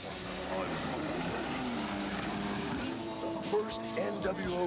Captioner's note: motorboat roaring